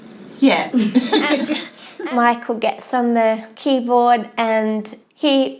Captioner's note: laughs